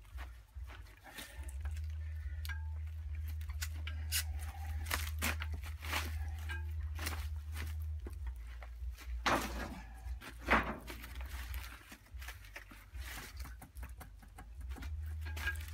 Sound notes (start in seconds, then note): 0.5 heavy breathing; 9.2 crashing metal on the ground